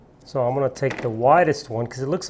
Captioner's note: none